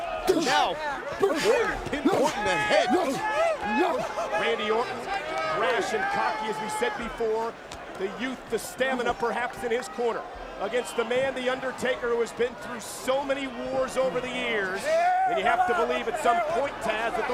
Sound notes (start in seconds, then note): 3.1 Randy grunting; 3.1 crowd cheering